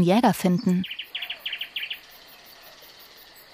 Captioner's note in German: Vogelzwitschern